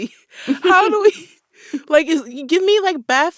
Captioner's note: laughter